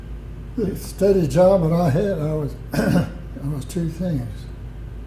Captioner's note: coughs